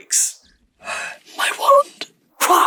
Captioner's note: whimpers